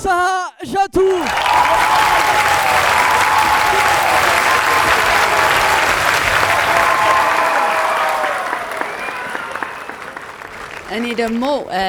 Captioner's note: applause